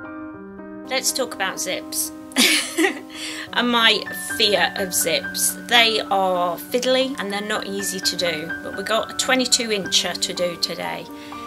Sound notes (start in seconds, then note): 2.4 laughs